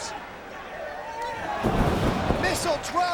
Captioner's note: bodies slamming